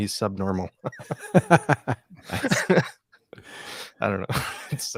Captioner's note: both laughing